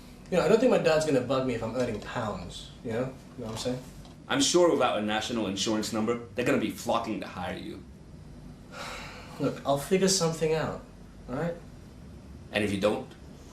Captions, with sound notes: I don't think my dad's going to bug me if I'm earning pounds. You know what I'm saying? I'm sure without a national insurance number, they're going to be flocking to hire you. [frustrated sigh] Look, I'll figure something out. Alright? And if you don't?